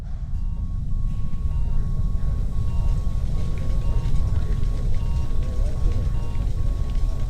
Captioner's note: medical machines beeping